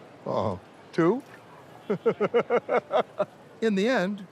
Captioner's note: laughs